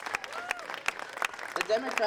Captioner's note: audience applauding